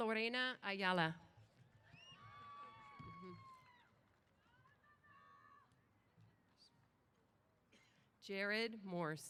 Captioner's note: applause & Cheers